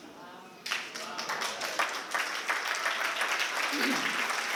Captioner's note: applause